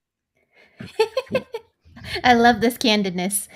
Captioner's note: laughs